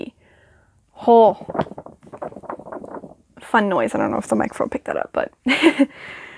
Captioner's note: book giggle